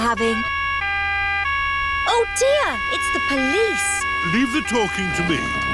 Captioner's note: siren wailing